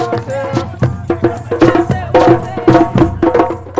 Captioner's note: crowd